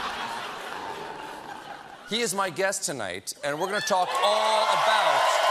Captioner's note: laughter